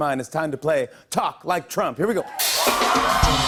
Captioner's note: cheers and applause